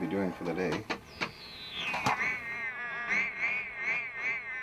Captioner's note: static warbling